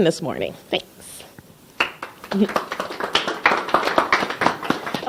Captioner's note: clapping